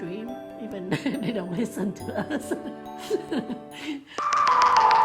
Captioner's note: laughs